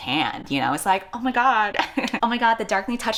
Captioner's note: laughs